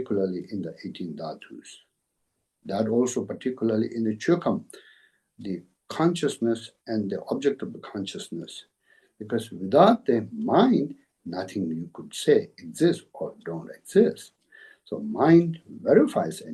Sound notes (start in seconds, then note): 5.3 tibetan